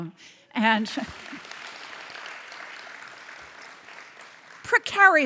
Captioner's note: audience applauds